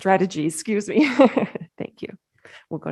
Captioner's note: laughs